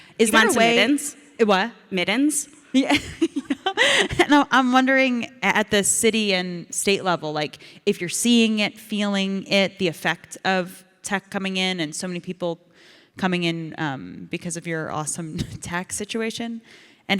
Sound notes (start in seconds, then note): 2.9 Ilana and audience laugh